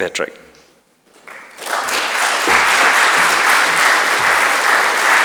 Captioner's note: audience applauding